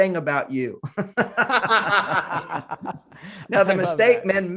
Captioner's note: both laughing